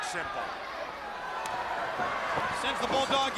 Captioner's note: crowd chatter